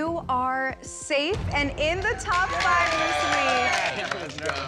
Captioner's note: applause and cheering